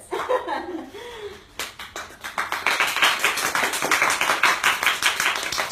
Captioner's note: applause